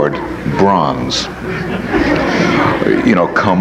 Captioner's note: audience laughs